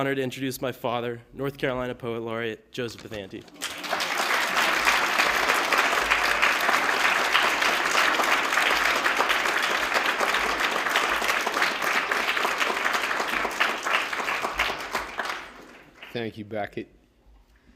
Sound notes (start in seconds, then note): 9.2 applause